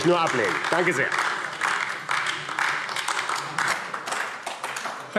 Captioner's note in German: Beifall AfD